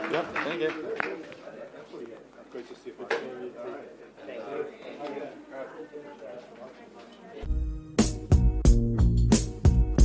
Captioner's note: applause